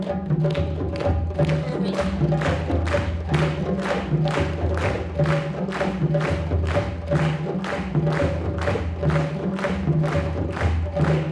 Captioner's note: clapping